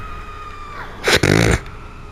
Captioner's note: laugh